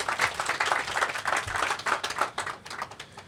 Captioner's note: applause